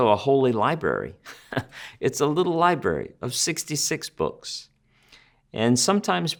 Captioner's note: chuckles